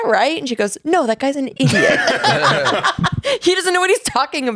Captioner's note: laughs